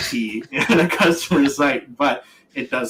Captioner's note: laughs